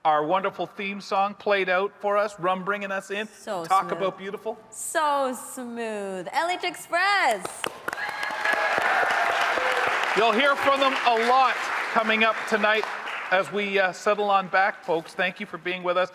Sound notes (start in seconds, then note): 7.4 audience applauding; 7.8 audience cheering